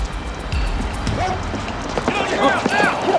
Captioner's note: suspenseful music; dog barks